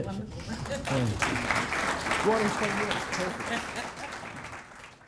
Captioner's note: audience applauding